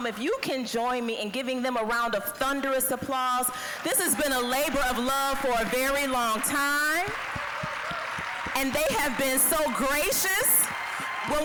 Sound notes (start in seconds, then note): 7.2 applause, cheering